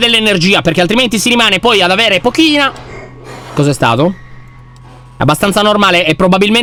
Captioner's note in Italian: rumori di respiri